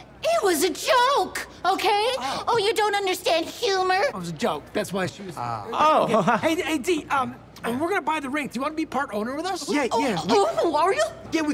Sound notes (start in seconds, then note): 5.9 laughs; 9.9 with mock excitement